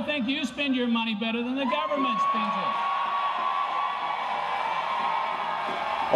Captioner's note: applause